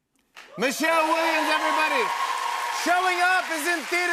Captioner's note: cheering and applause